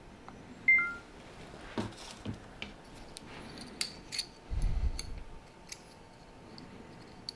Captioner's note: camera off ding